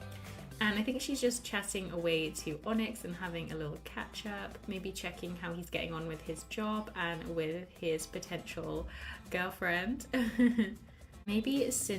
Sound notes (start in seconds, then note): 10.2 laughs